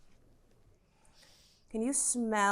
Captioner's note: sniffs